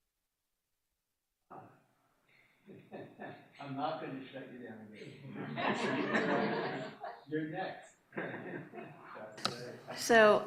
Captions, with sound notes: - I'm not going to shut you down again. (laughter) You're next.